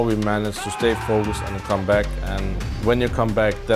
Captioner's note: players cheering